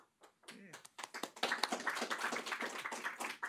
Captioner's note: applause